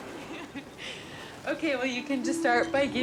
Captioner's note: giggling